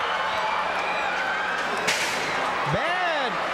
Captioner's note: crowd yelling